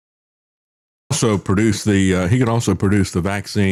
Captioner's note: crowd Laughs